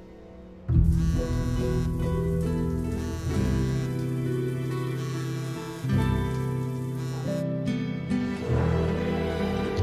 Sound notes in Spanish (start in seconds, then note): 0.9 Zumbido del celular